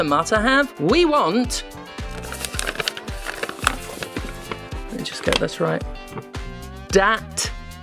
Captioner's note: crumbles paper